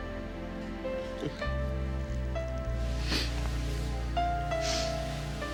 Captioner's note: Nora chuckles